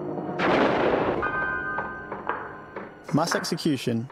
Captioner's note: booming